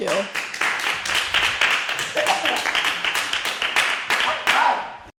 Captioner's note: applause